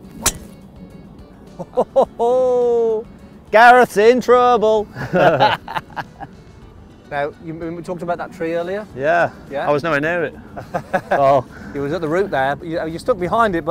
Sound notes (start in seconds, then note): 0.0 golf Ball being Hit; 4.9 everybody Laughs; 10.5 laughs